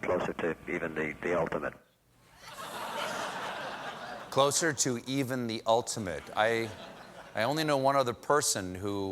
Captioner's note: laughter